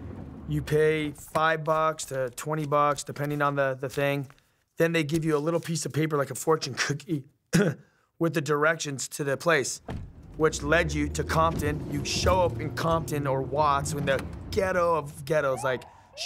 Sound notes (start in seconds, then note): 2.0 money rustling; 7.5 coughs; 9.8 car door closing; 9.9 car driving